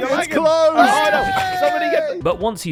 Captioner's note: cheers; group commotion